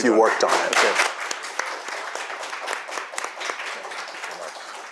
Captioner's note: audience applauding